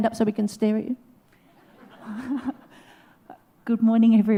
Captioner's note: laughs